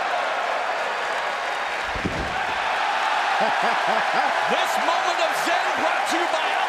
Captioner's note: crowd cheering